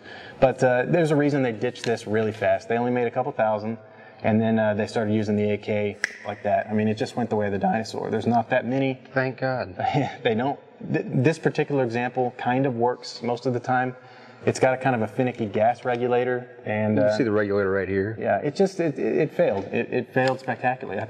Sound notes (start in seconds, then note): 6.0 snaps finger; 10.0 laughs